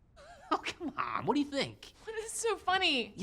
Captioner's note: laughs